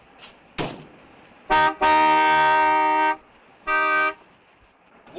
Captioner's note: horn honking